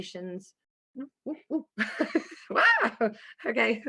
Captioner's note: laughing